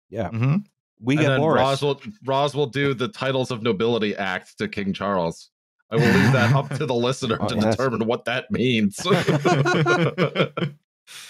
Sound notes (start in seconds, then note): 6.0 laughter